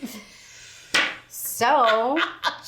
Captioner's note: laughs